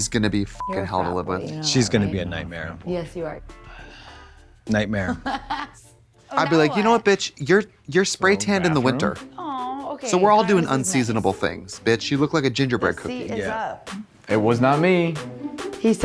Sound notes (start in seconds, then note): 0.6 beep; 5.1 laughing